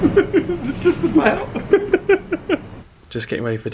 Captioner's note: giggles